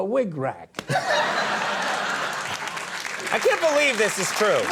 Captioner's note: audience cheering